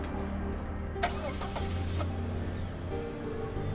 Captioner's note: car engine starts